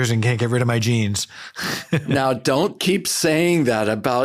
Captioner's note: laughs